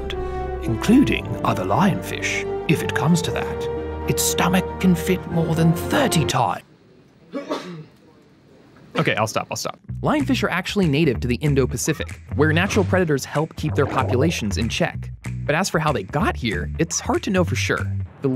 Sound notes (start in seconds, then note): 7.3 sneezing